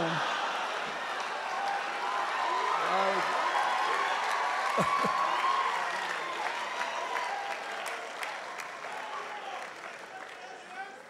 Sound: laughter and applause

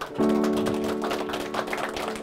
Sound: clapping

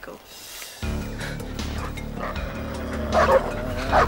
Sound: barking

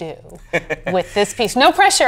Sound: chuckles

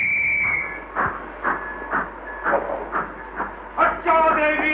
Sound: whistles; train Running Sound

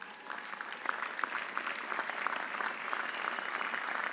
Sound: audience applauding

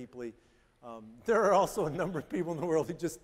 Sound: chuckling

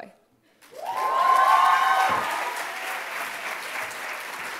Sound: applause

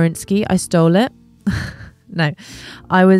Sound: chuckles

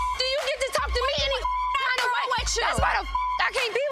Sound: beep

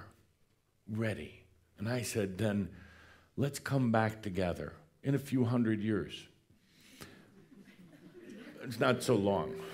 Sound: a few chuckles

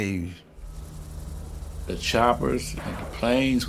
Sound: helicopter engine running

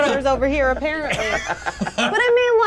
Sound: co-hosts laughing

